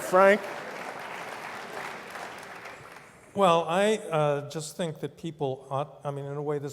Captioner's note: applause